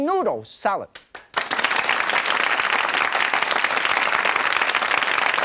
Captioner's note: audience clapping